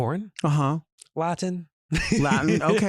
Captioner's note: laughs